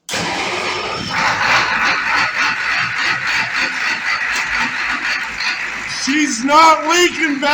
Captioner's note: engine cranks, & starts